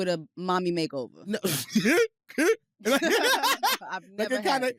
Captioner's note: laughing